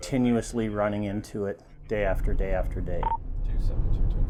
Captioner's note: radio beeps